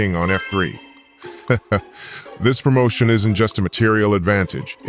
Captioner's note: laugh